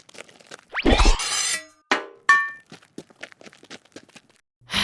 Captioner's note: metal clattering